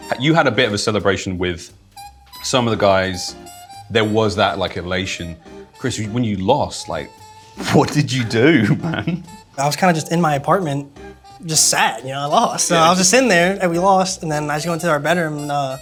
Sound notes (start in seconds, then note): 7.7 chuckles